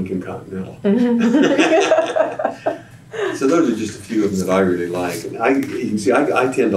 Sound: laughter

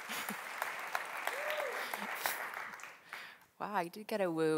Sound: audience member cheers

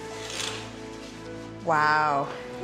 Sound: rattling sound

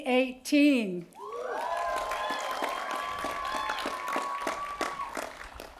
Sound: cheering

